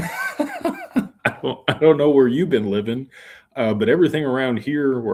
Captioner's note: laughter